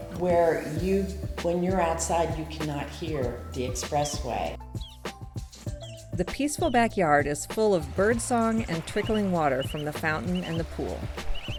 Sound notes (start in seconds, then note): 5.6 birds singing